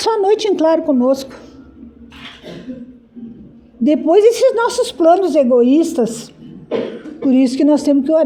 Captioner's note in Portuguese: limpando a garganta